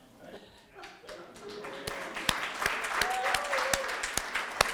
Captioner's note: applause